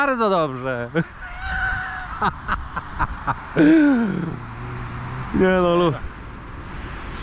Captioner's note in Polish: śmiech